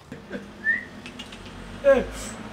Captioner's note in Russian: свист